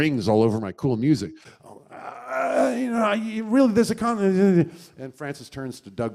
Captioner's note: stammers